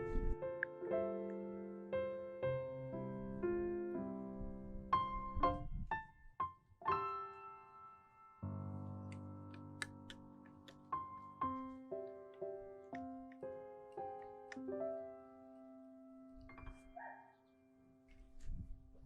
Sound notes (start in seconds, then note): 16.9 doge noise